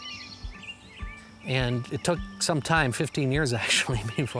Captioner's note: chuckles